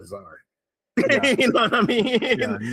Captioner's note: laughing